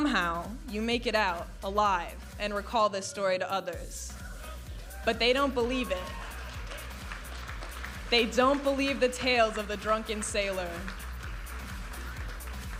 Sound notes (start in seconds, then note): 5.8 audience applauding and cheering